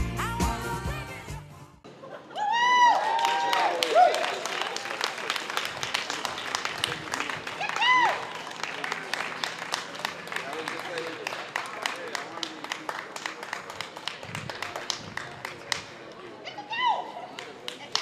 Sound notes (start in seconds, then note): 1.6 music fades; 2.3 cheering, applause